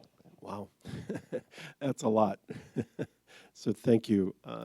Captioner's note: laughs